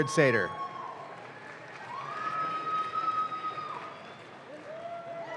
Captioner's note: audience claps